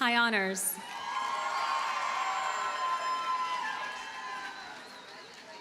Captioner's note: audience cheers and applauds